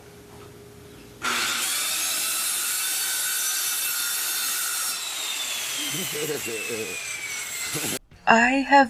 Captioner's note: electric saw noise